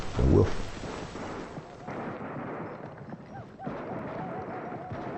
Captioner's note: guns firing